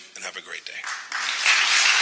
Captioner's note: applause